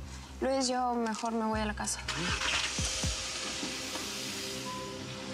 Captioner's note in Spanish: encendido de motor